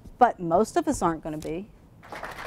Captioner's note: audience clapping